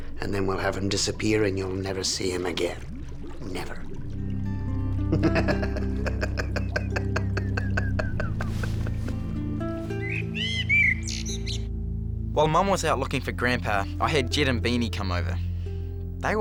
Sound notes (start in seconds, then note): 5.1 evil laughter; 10.2 birds chirp